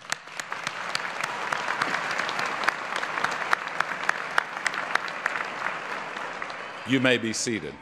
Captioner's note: applause